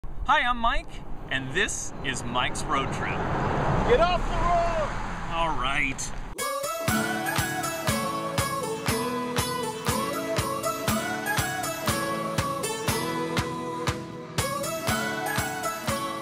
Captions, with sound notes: Hi I'm Mike and this is Mike's Road Trip. "Get off the road..." [Driver yells] "All right."